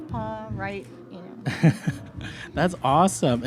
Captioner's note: laughs